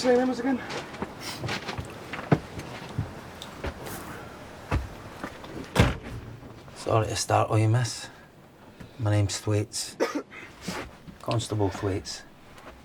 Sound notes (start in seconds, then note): 5.5 closes door; 9.9 Theo coughing